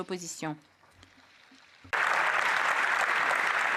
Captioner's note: applause